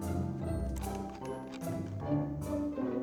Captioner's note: mouse scrolling